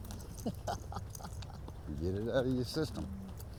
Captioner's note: laughs